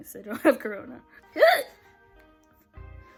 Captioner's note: another hiccup